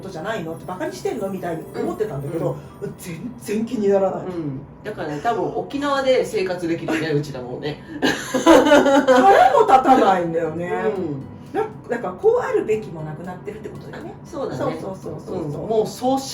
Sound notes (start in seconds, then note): 11.5 laughs